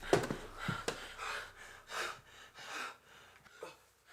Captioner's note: Meathook Man exhaling; both panting